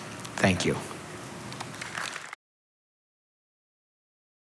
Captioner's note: applause